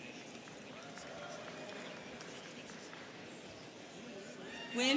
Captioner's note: students chattering